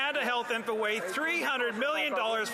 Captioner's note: some Applause